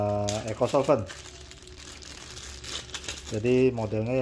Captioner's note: plastic sound